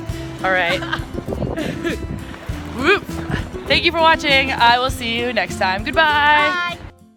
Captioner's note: laughs